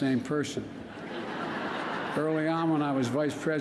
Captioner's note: laughter